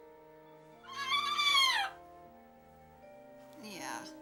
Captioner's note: squawks